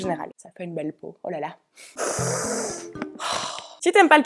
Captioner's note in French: renifle parce que ça sent bon